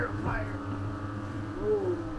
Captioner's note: machine buzzing